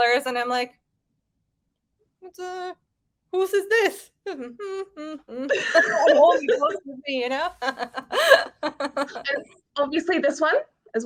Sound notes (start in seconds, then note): 7.3 women laughing